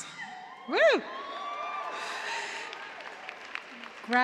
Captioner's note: cheers and applause